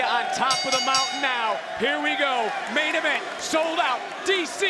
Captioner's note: bell rings